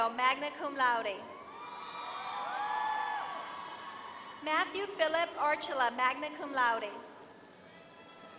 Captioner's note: applause